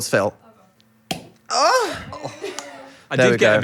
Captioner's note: bottle popping; Dan groaning